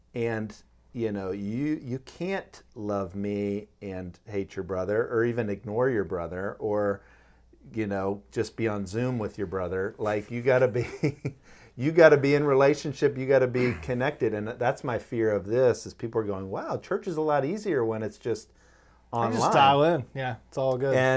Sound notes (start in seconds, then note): 11.2 laughing